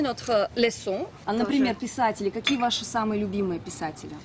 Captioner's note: speaks in Russian